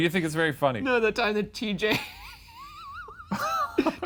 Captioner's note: laughs